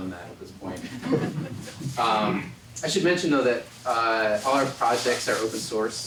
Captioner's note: laugh